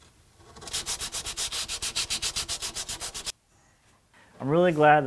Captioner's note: sandpaper scratching